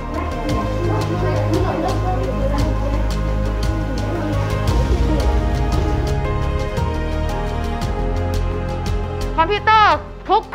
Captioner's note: student murmuring